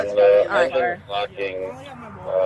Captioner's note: radio chatter